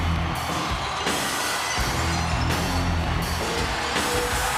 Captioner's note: audience cheers; upbeat music